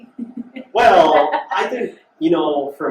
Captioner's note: laughs